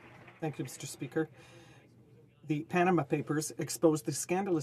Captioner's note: applause